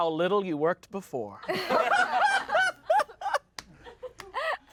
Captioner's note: everyone laughs